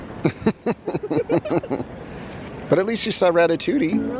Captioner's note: laughing